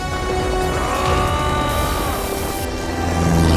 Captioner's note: Grunts